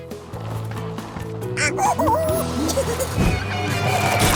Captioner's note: monkey noises